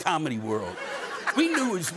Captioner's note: laughter